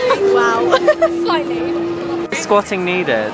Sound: laughs

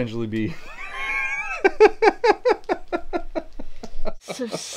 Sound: breaks into laughter

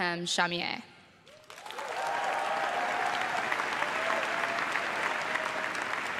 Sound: crowd claps and cheers

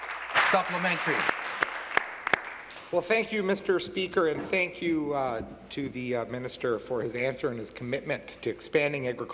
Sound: applause

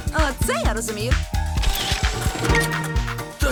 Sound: camera whirring

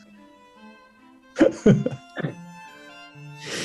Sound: laughing

